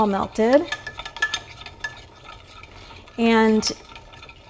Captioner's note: stirring mixture